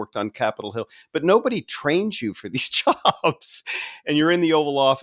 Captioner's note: laughing